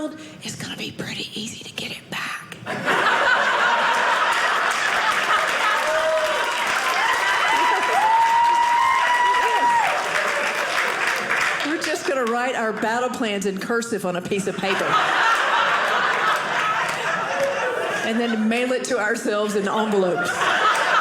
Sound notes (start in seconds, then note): 2.7 audience laughing; 6.0 audience clapping; 14.5 audience laughing